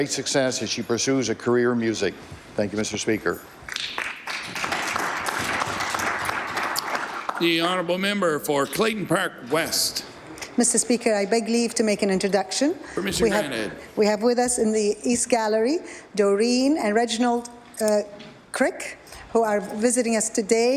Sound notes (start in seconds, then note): 10.0 applause